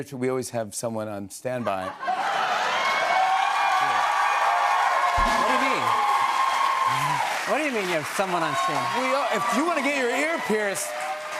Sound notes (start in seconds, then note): 2.1 laughter, cheers, applause